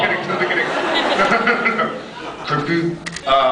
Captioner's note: laughing; laughs